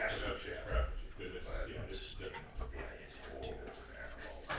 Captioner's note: installers chattering